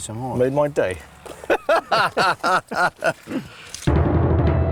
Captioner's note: both laughing